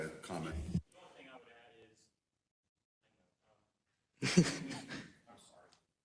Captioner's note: laugh